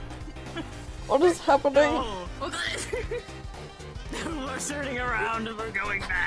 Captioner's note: can't finish sentence because snickering